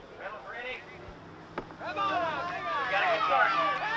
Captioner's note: shouting